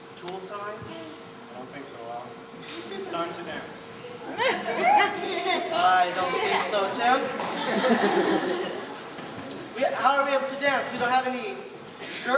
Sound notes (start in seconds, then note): 4.2 soft laughter; 7.3 laughter